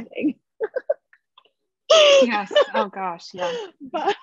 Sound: chuckles

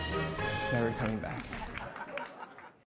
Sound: audience clapping and laughing

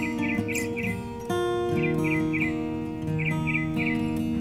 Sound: birds chirping

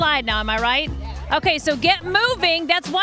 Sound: crowd

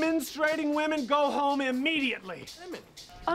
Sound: california accent

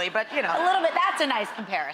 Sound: audience laughs

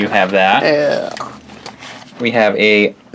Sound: making gagging sounds

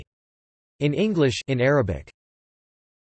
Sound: in Arabic

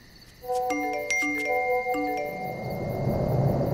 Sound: notification sound

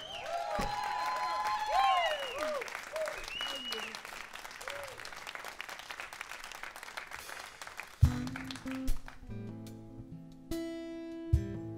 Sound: applause

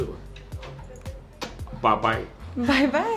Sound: kissing

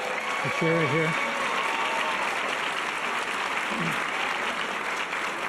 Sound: audience cheers and applause

